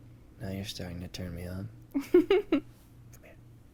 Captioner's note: Emma giggles